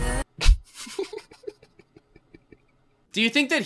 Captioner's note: laughs